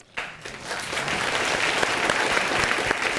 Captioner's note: audience applauding